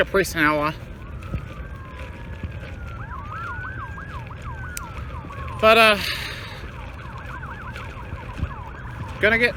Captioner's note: sirens wailing